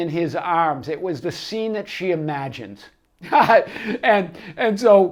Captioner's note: laughs